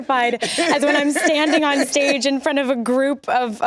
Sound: laughs

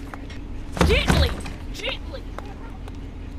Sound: slams luggage in the car

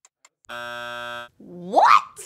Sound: buzzer

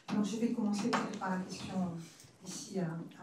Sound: speaking french

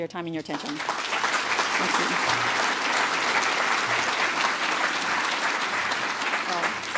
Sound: applause; speaking off mic

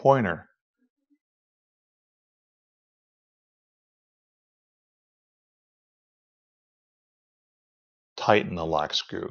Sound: silence

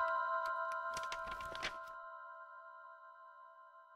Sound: inspirational music; pages flipping

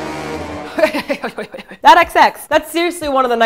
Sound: sound of a horse

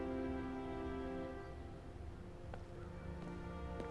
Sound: birds chirping

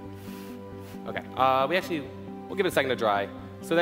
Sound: blowing

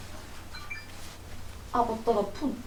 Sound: cellphone notification sound

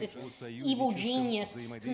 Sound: speaking Foreign Language

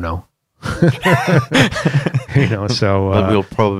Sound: laughter

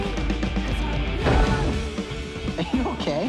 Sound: thud

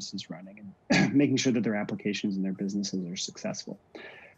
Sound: clears throat

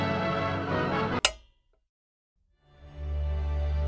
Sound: TV clicking; somber string music

